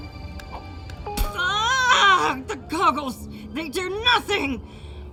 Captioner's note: yells